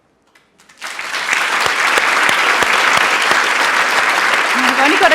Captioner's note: applause